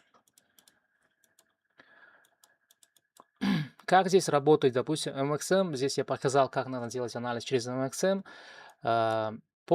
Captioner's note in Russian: откашливается